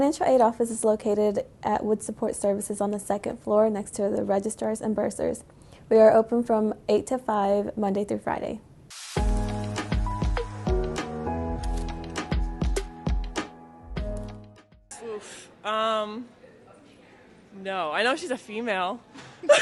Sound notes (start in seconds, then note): 16.6 laughs